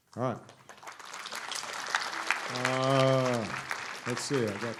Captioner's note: applause